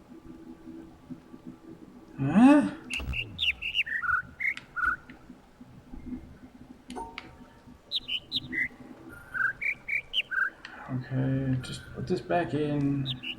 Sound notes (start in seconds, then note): 2.7 overlapping birds chirping, ˥ ˥ ˩ ˧ ˩; 7.6 overlapping birds chirping, ˥ ˧ ˥ ˩